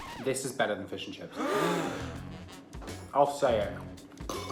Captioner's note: crowd gasping